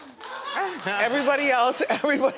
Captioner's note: everyone laughs